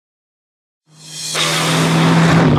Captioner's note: engine revving